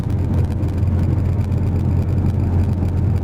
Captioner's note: engine and road noise